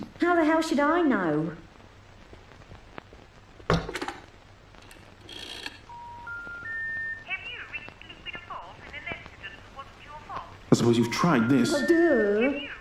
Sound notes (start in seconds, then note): 5.1 phone cranking; 5.9 busy signal beeping